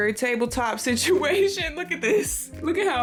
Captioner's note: laughs